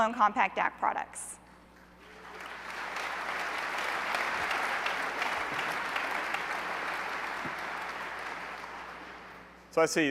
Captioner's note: applause